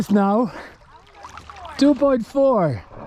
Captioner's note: speaking Dutch